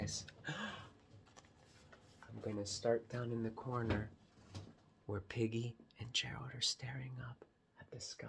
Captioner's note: gasps